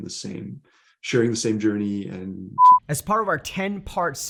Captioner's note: beep